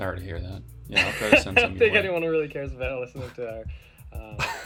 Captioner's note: laughs